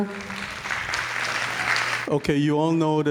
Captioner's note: audience claps